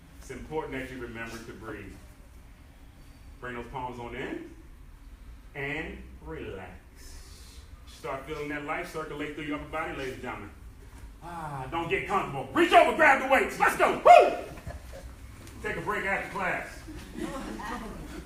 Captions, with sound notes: It's important that you remember to breathe. Bring those palms on in-- and relax. Start feeling that life circulate through your body ladies and gentlemen. [exhales] Don't get comfortable, reach over, grab the weights, let's go! Take a break after class